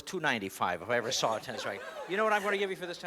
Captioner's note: laughter